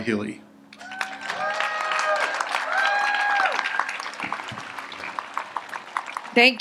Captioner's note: audience applauds and cheers